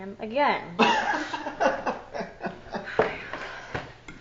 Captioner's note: laughing